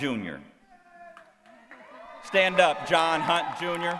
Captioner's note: applause